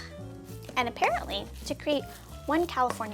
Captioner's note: ingredients sloshing